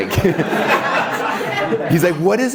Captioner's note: laughing